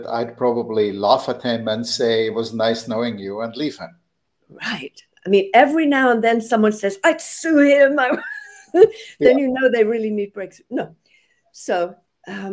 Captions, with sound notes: I'd probably laugh at him and say, it was nice knowing you and leave him. Right! I mean, every now and then someone says, I'd sue him! (laughs) Then you know, they really need Break ... No! So.